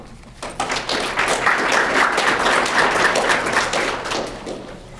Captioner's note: crowd clapping